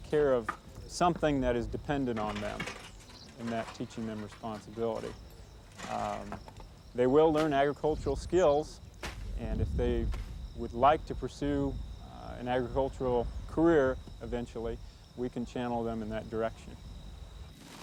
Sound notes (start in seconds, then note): none